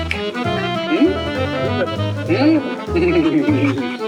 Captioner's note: indistinct conversations